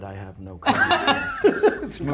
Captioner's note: laughs